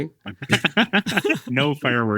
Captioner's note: people laughing